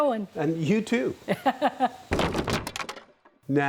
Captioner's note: laughs